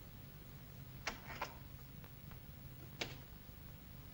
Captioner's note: door locks